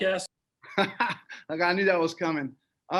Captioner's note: laughs